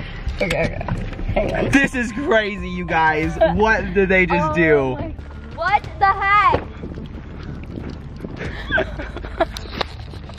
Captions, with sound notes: - This is crazy you guys, what did they just do? - What the heck? (laughing)